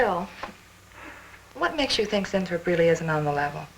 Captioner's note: none